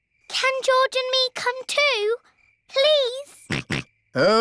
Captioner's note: snorts